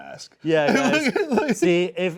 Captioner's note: laughing